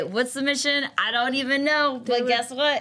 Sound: none

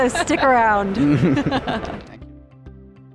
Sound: all laugh; bright music

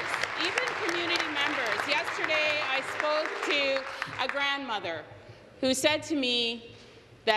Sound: applause

